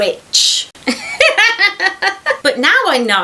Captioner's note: witchy cackle